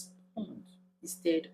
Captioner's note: paause